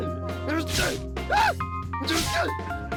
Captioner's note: shouts